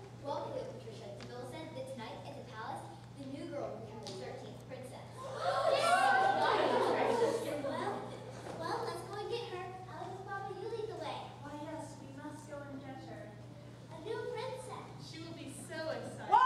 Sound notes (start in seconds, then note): 5.1 all murmuring and exclaiming in excitement